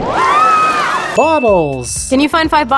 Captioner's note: screaming; ding